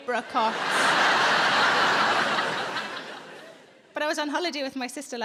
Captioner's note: audience laughing